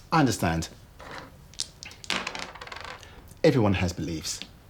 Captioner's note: dice clattering